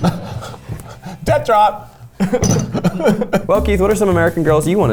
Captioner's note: ceramic clatters; both laugh